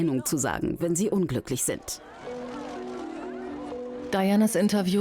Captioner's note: crowd cheers loudly